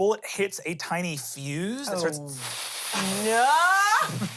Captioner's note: hisses